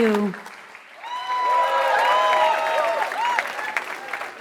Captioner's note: applause